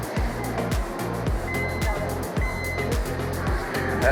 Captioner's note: gate beeps